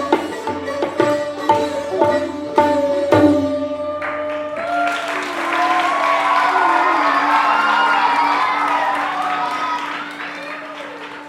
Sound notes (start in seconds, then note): 4.0 applause